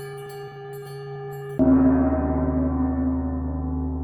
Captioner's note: deep bell tolls